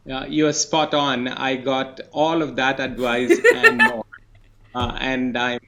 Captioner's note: laughs